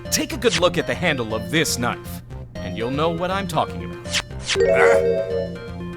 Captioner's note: none